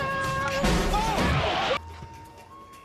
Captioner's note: crash